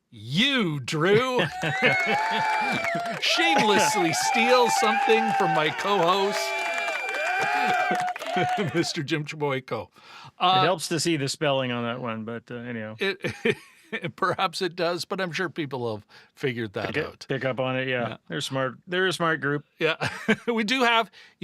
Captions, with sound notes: Nice to see you, Drew. (audience cheering) I shamelessly steal something from my co-host, Mr. Jim Chliboyko. It helps to see the spelling on that one, but anyhow. Perhaps it does, but I'm sure people have figured that out. Pick up on it, yeah. They're a smart group.